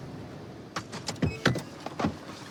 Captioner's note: beeping